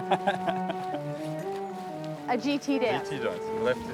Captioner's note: laughter